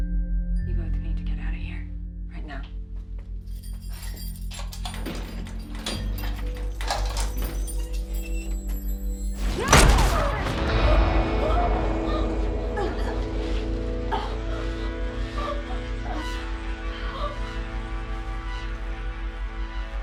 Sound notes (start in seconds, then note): 9.6 gunfire; 10.1 Rowena gasping